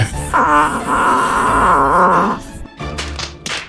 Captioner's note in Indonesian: berteriak